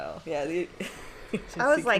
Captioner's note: chortles